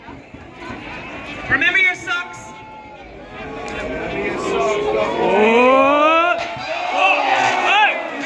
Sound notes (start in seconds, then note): 2.2 rising cheers